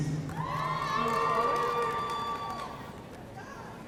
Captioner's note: audience cheering